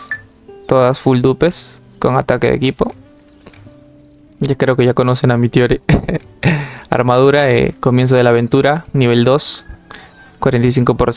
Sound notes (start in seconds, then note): 5.8 laughs